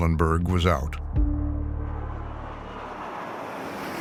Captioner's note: engine roaring